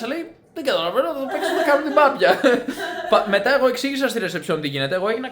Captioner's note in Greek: γέλια